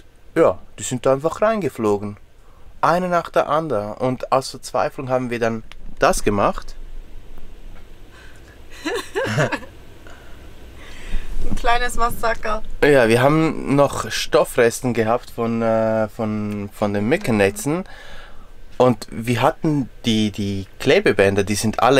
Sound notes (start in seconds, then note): 8.7 laughter